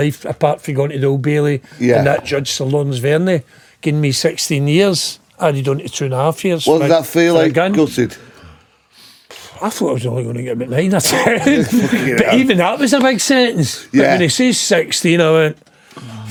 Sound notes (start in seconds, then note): 11.0 laughing